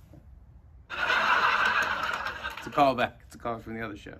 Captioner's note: laughter